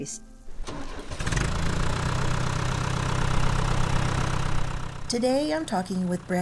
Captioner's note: tractor engine starts up